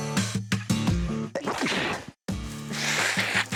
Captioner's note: sneeze; blowing noses